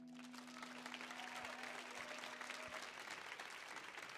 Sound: audience applauding

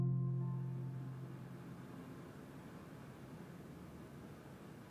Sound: fan whirs

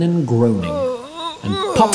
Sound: groans

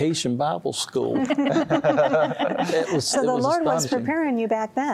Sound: laughter

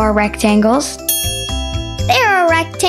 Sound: bell dings

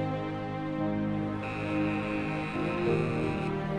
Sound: buzzer

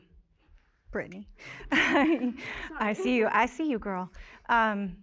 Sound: chuckles

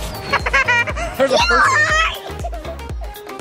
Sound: laughs

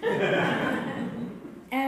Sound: laughter

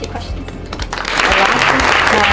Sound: applause

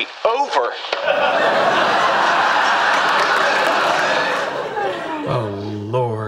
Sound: audience laughing

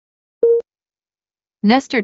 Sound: beep

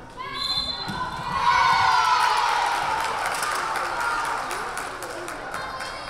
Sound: whistle blaring; crowd cheering

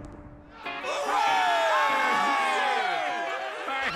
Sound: crowd cheering

